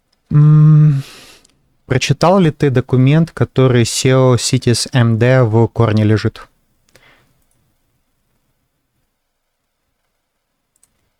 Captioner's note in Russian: фыркает